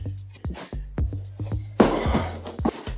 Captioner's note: box thudding table